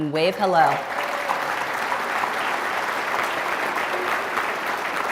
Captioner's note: audience applauding